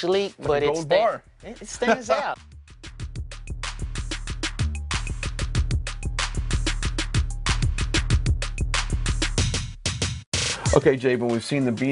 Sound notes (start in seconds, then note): 1.7 laughs; 5.8 energetic drum music